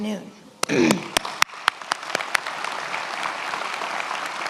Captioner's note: many applauding